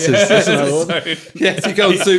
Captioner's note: all laughing